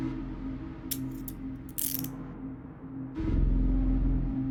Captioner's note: handcuffs clicking